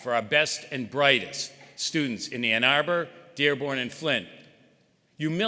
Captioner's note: none